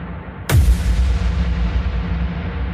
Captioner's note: boom